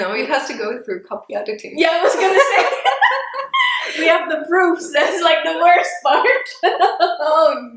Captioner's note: both laugh